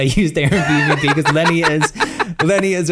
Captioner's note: laughs